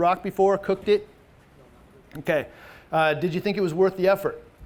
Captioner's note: man speaks faintly